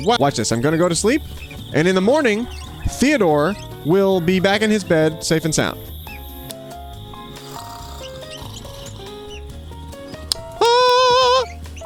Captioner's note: snoring